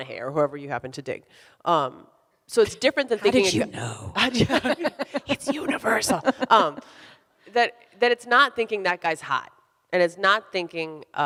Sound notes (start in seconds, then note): 4.2 both laughing